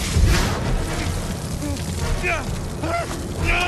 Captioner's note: inferno rages; character grunting